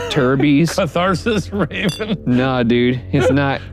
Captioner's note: laughs